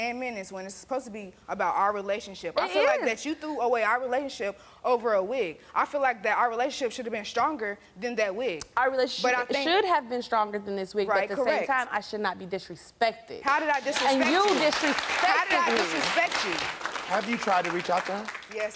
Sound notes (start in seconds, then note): 13.4 audience clapping